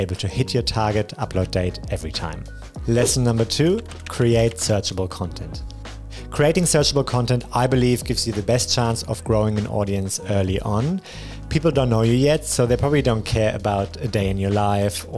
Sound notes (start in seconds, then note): 2.8 air whooshing; 2.8 keyboard clacking